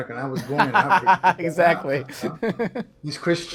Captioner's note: laughs